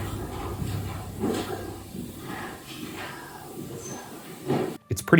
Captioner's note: disembodied Voice